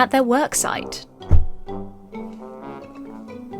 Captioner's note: unseen object thuds